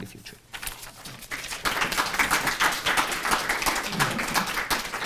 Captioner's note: applause